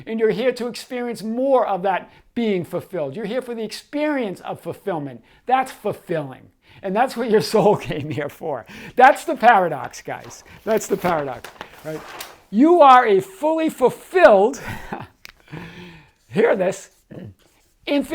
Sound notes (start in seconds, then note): 14.6 chuckling